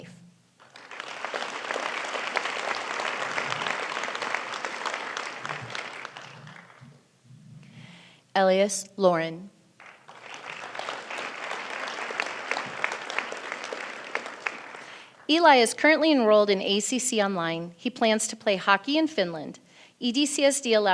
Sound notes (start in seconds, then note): 3.1 applause